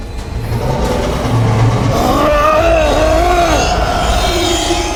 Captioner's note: monster growling